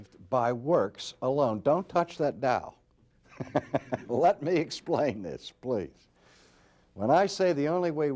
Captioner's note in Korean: 웃음